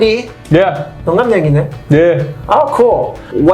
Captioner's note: speaks in Korean